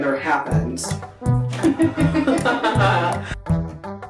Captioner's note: laughing